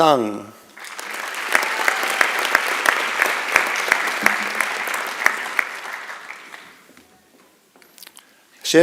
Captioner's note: applause